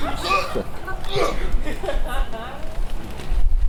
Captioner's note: Puck laughing; Puck grunts